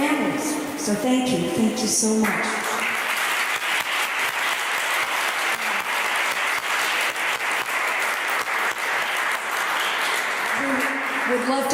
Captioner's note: applause